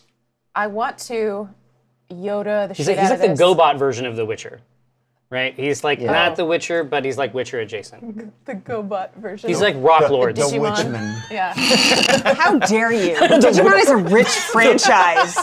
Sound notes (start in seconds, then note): 10.2 laughs